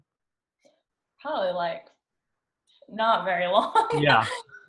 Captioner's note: laughs